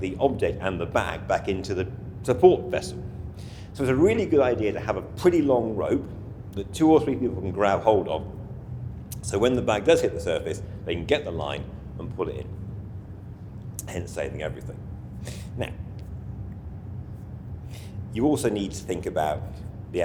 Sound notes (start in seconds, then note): 3.2 inhales audibly